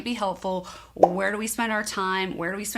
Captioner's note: bubble popping